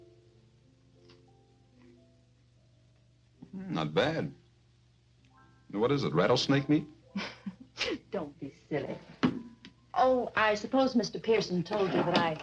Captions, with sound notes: Hmm, not bad. What is it? Rattlesnake meat? (laughs) Don't be silly. Oh, I suppose Mr. Pearson told you